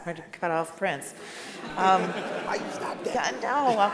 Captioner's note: all laugh